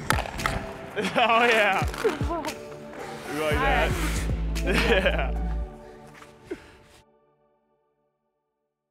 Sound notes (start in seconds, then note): 2.5 laughing